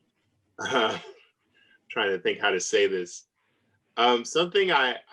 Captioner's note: laughs